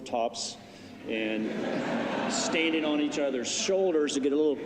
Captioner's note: laughter